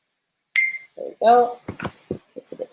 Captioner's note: beep